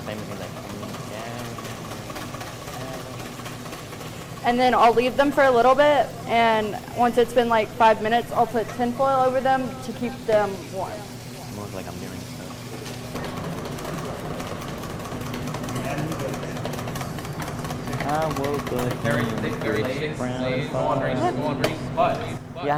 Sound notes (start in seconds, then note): 13.2 whisking